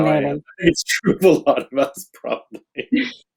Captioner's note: laughs